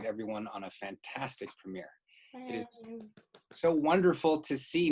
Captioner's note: applauding